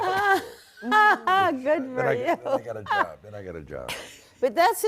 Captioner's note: laughs